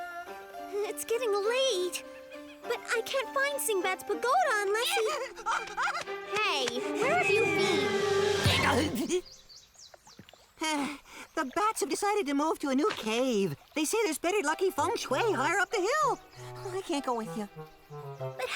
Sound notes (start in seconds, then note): 8.4 crash lands